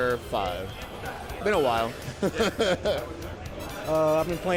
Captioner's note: laughs